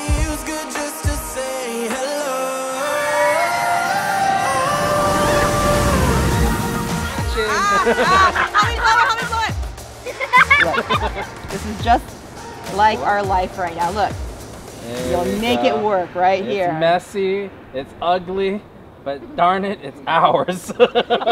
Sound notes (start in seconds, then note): 2.6 rollercoaster zooms; 10.0 daughter giggles